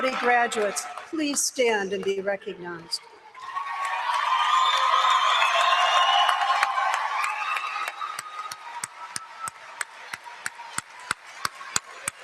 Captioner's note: applause; applause